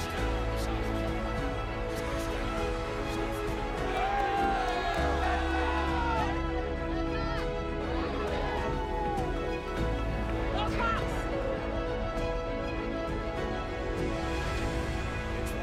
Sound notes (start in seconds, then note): 0.2 inspirational music; 4.2 cheering; 12.2 inspirational music